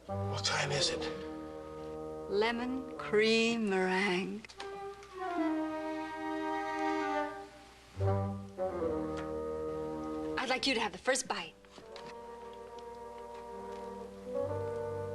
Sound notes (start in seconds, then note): none